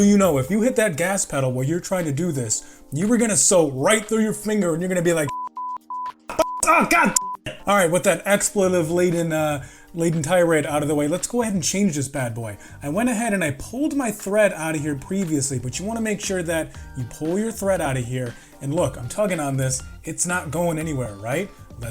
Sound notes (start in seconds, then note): 5.2 beep beep beep